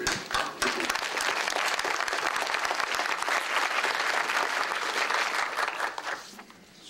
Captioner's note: applause